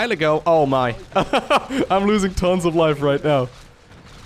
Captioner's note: laughs